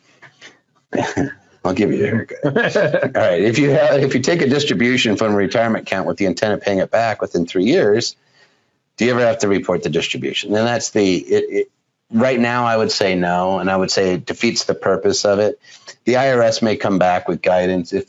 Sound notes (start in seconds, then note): 1.7 chuckles